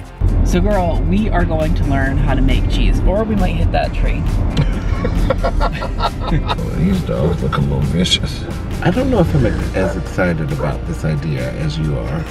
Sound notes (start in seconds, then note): 4.5 laughing; 12.1 chuckling